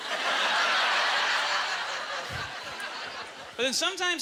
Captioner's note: audience laughter